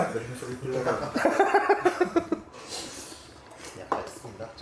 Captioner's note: laughs